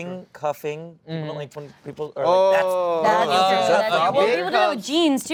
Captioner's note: overlapping chatter